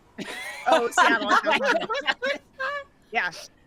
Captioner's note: people laughing